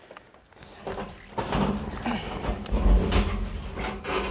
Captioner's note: loud metal clanging